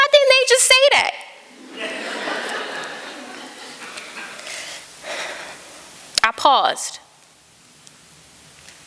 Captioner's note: laughter